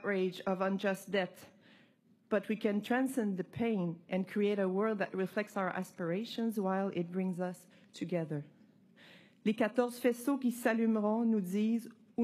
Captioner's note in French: voix de l'interprète